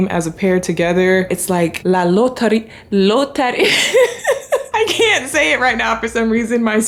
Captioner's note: laughs